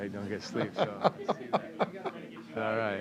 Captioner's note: laughs